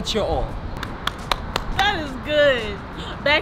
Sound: claps

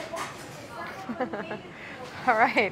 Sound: giggling

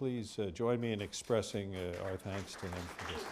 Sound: applause

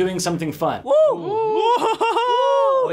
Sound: laughs

